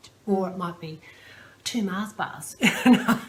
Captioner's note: laughs